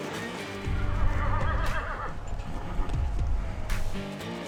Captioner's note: horse whinnying